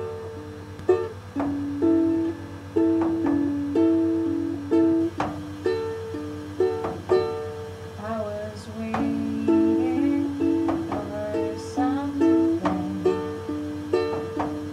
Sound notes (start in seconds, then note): 0.0 strumming; 0.9 thumping